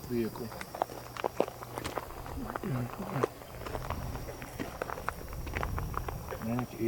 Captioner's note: footsteps